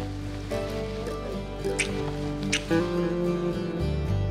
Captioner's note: smooch